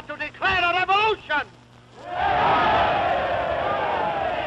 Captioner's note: cheering